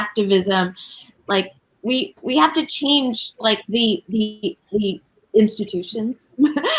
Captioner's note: laughs